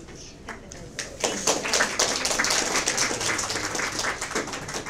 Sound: audience applause

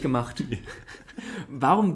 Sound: laughs

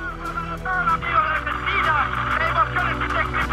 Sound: voice-over

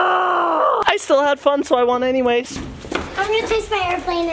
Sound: shouts

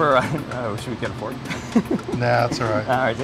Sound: laughing

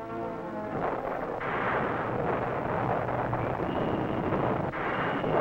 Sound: missiles exploding

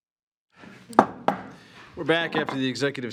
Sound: gavel clanking

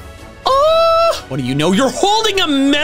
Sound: exclaims

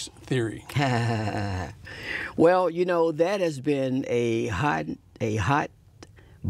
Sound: laughs

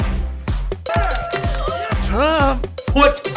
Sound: upbeat music; cheering

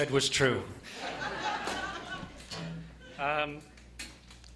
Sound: laughter

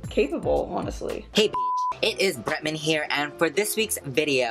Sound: beep

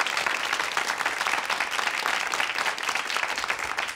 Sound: crowd clapping

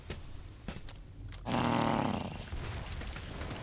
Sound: growling

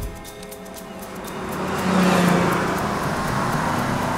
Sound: vehicles passing

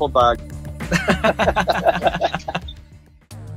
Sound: laughs

